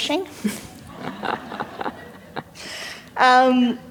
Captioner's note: laughter